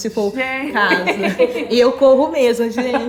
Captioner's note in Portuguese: risos